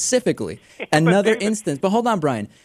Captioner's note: laughs